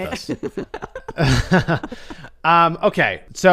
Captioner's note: laughs